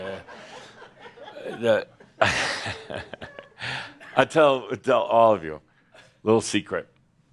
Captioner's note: chuckles